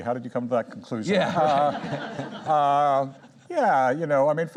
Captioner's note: audience laughs